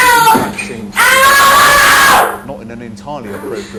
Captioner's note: child screams